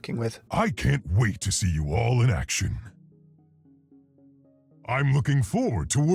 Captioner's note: voiceover